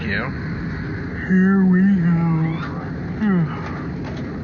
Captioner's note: yawns